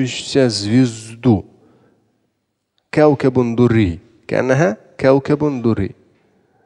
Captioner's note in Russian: Говорит на арабском